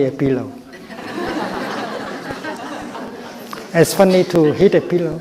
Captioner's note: crowd laughs